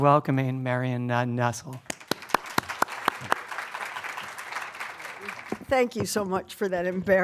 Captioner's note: applause